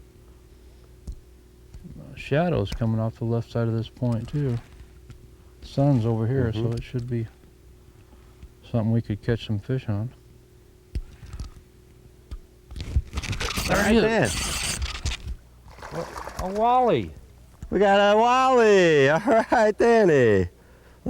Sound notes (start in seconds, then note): 10.5 reel noise; 15.7 splash